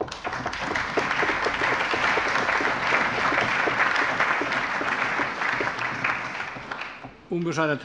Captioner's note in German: Allgemeiner Beifall